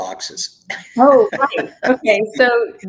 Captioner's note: chuckles